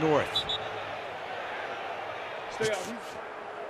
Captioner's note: whistle blowing